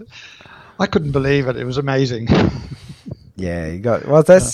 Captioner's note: laughs